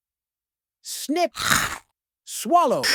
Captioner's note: crunch; gulp